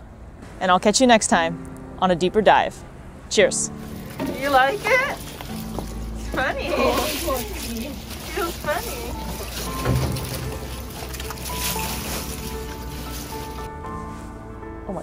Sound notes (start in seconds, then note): 9.4 background music; 9.4 ice shuffling noises; 9.4 scrabbling noises; 14.0 background music